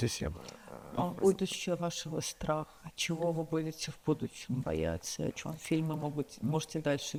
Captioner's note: Sasha speaks in foreign language